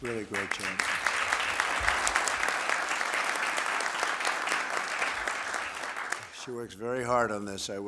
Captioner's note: applause